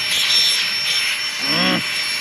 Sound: growls

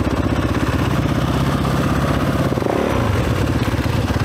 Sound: engine revving

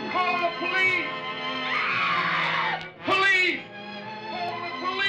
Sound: screams

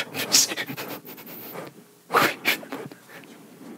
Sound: abdominal breathing

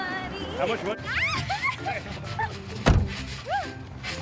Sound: laughing

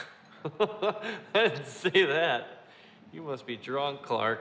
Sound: laughing

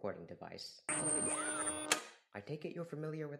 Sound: high pitched sci-fi noises, followed by a clicking sound

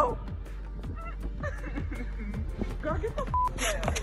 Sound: cries

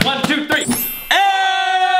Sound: magic sound; both men scream

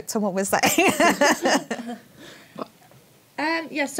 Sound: laughs

